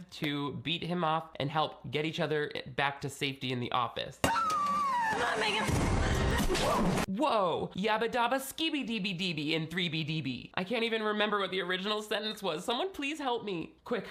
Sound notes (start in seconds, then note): 4.3 women screaming